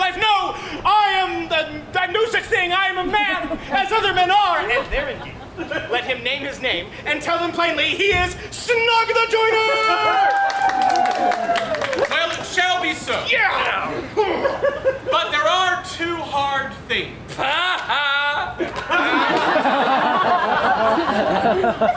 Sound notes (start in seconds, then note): 9.5 actors cheering; 10.1 actors applauding; 14.3 grunts; 17.3 Flute laughs